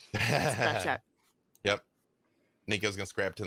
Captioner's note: group laughs